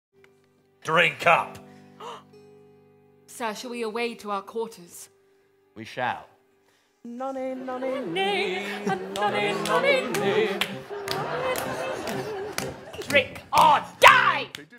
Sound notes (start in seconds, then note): 1.7 gasp